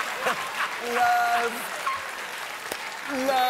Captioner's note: applause